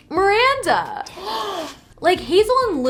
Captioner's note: gasps